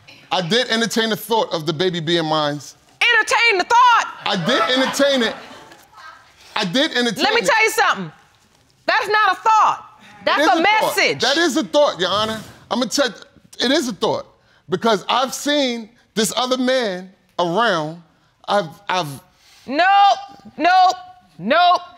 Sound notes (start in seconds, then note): 12.5 stutters